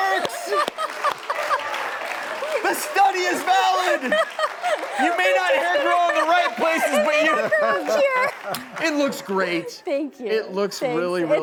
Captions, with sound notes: It works! (laughs) The study is valid you may not hair grow in the right places but it looks great! Thank you thanks